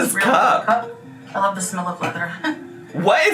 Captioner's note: laughs